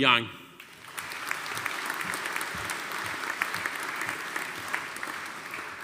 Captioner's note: audience applauding